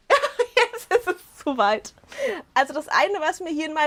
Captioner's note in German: Gelächter